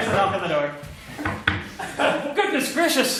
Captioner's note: knocks; there's the knock on the door; knocks again